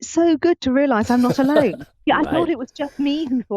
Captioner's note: chuckling